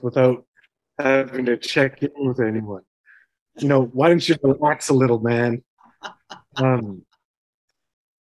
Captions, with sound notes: without having to check in with anyone. You know, why don't you relax a little, man?" - [laughter] - Um...